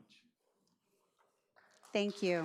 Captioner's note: audience applauds